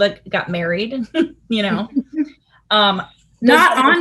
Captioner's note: giggling